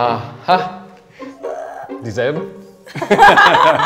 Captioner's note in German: Stöhnen; Lachen